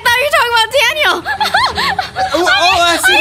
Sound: laughing

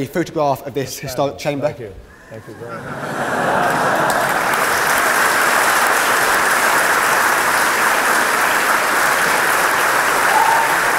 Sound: laughter and applause

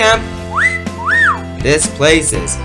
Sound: whistling

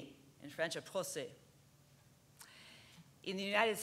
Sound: spoken in French

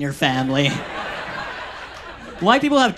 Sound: audience laughs

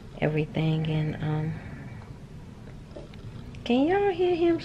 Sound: snoring

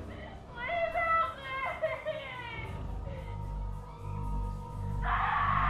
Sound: ominous music; crying

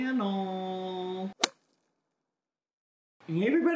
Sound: slapping sound effect

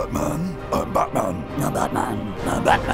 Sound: hoarsely

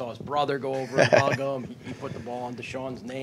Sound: laughter

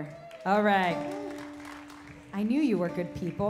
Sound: cheers, clapping

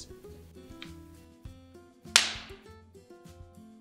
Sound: knock

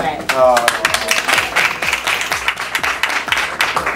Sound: applause

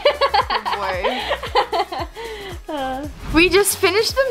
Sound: giggles

